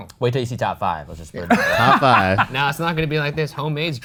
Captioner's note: laughs